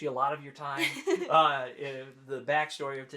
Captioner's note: laughing